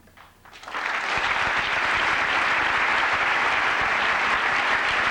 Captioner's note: applause